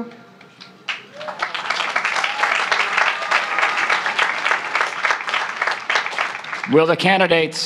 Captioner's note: applause